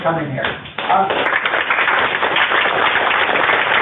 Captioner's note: applause